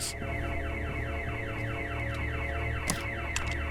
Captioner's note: alarm blaring